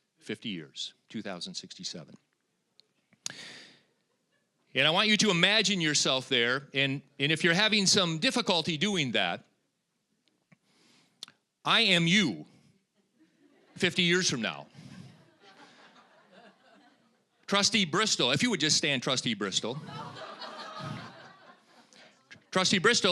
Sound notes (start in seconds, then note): 14.8 audience chuckling; 19.6 audience laughing